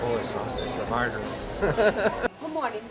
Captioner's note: laughs